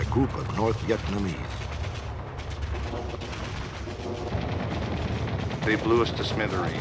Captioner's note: sound of gun shots